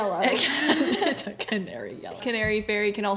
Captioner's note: laughs